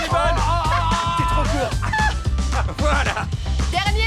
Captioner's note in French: rire